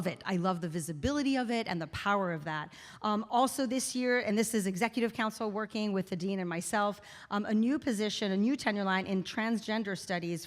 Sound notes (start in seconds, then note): none